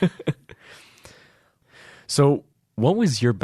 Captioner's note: laughing